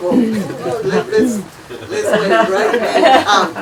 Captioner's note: offscreen laughing